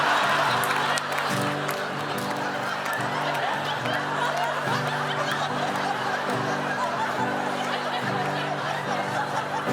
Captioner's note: audience Laughte